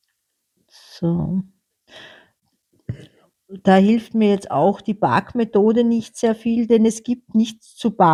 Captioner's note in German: räuspern